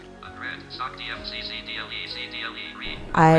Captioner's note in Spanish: ordenador hablando